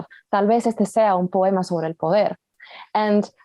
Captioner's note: Spanish language